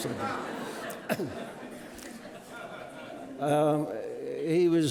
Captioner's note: audience laughing